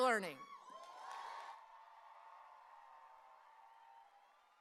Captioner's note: audience cheering